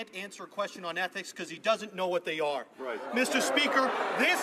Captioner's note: some Applause